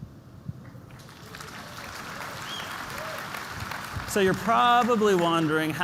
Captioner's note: applause